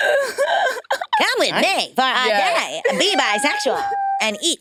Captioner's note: participants laughing